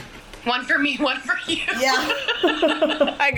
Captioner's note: laughs happily